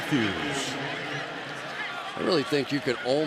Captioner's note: pa announcement